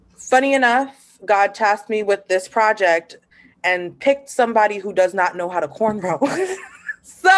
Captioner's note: laughter